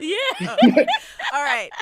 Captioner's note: laughing